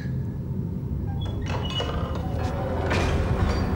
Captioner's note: door clicking; eerie orchestral music